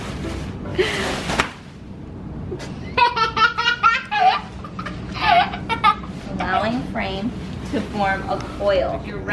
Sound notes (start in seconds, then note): 2.5 laughing